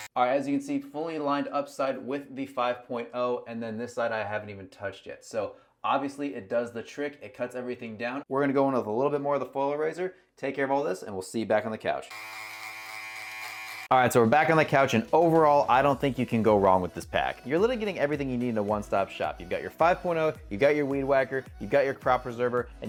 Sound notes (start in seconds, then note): 12.1 trimmer buzzing